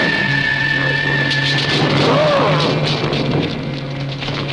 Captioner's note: growling